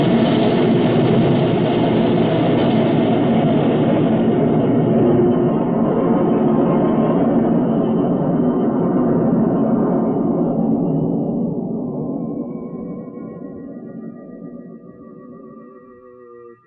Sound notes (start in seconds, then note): 5.8 helicopter whirring